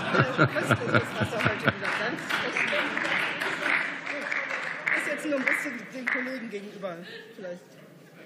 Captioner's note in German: Beifall